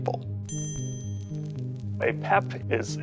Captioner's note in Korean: 종 소리